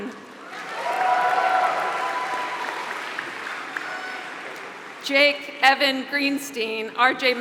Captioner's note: applause